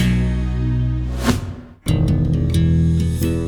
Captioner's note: scene whooshing; bright gentle music continues